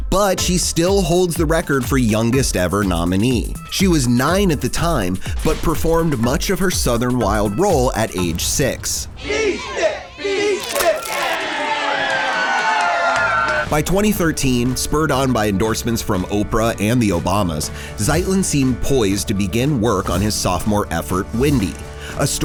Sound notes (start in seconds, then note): 9.1 crowd; 11.2 crowd cheering